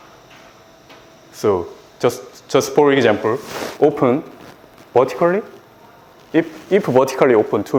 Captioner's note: rustling sound